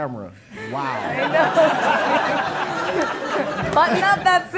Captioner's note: audience laughing